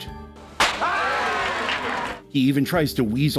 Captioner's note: pop!; applause, cheering